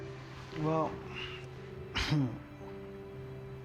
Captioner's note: laughs